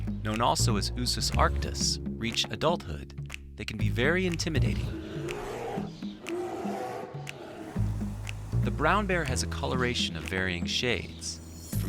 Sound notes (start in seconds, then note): 4.6 bear growling